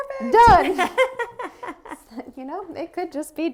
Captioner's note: laughter